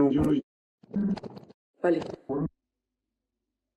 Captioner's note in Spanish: voz distorsionada